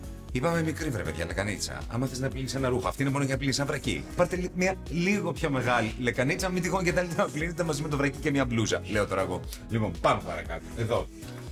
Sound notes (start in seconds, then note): none